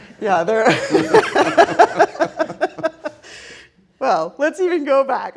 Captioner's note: all laughing